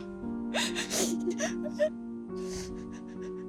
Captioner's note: crying